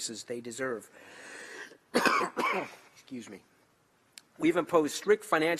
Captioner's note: coughs